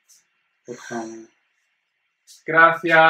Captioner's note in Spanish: Astrid suspira